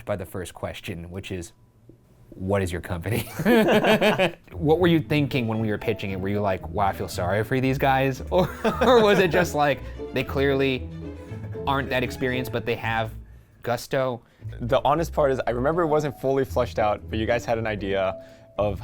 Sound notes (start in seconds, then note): 3.2 laughs; 8.5 laughs